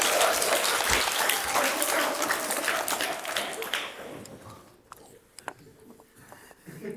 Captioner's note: applause